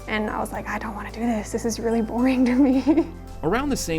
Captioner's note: laughs